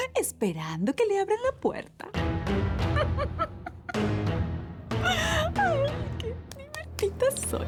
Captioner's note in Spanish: Risas